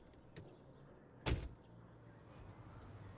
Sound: car door closes

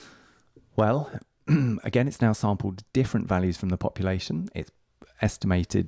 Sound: coughs

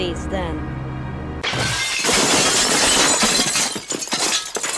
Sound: crash!!!

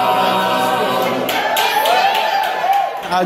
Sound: applause

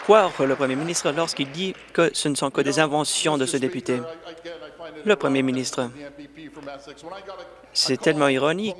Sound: applause

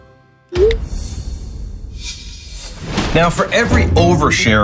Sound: phone notification rings

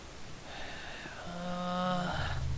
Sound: sighs

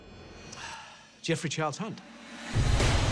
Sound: sighs

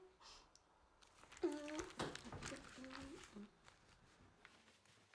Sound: Amelia hums

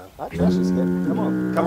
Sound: foghorn

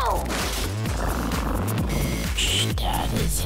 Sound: purrs

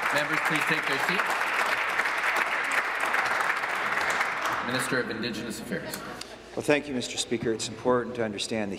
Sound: applause

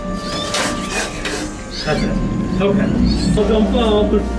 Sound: clamor

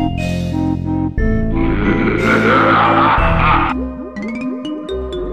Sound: maniacal Laughter

